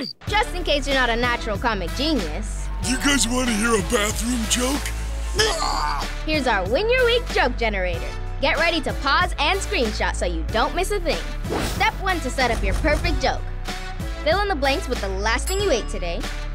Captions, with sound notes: Just in case you're not a natural comic genius... Do you guys wanna hear a bathroom joke? [choking] Here's our Win Your Week Joke Generator! Get ready to pause and screenshot so you don't miss a thing! Step One to set up your perfect joke. Fill in the blanks with the last thing you ate today,